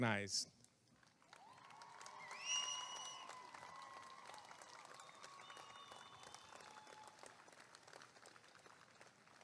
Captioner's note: applause and cheering